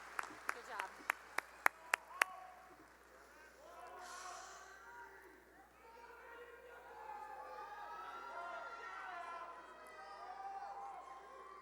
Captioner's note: cheering and applause